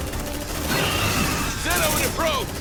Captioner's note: gunshots